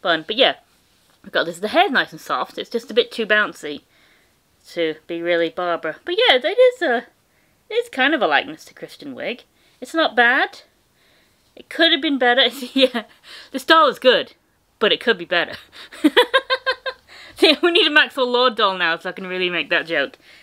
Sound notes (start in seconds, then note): 15.8 laughter